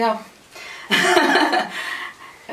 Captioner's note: laughs